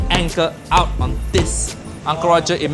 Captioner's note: mallet thudding